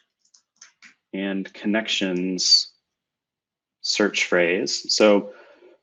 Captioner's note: typing